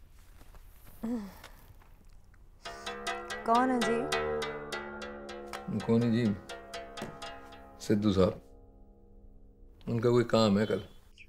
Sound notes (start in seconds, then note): 1.0 sighs